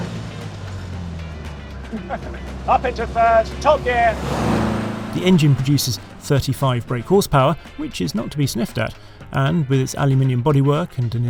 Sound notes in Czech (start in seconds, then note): 0.1 jasná hudba; 1.9 se směje